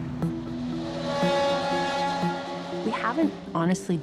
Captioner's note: train horn blaring